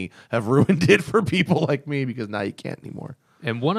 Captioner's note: laughter